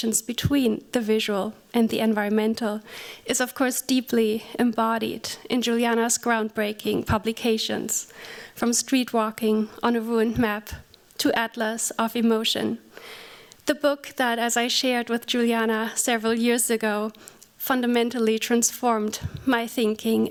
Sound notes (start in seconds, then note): none